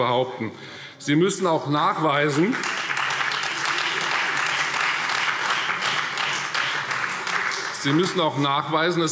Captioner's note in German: Beifall Freie Demokraten und BÜNDNIS 90/DIE GRÜNEN